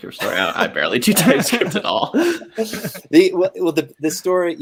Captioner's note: laughs